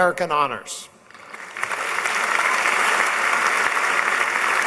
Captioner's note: applause